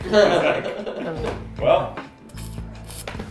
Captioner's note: group laughter